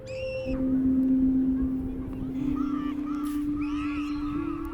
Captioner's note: child screaming playfully